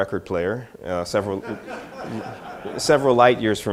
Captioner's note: audience laughter